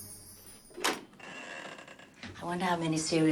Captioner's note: door creaking